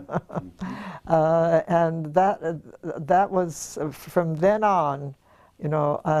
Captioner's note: laugh